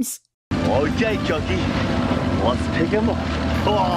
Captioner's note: Mitch, in a bad Chinese accent